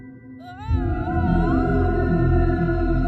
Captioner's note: yells